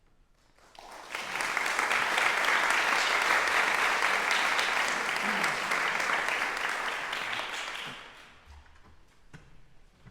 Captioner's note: applause